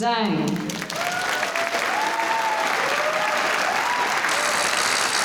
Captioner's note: applause